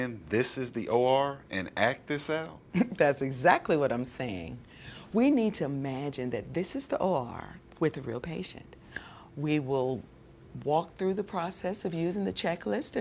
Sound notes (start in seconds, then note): 2.8 laughs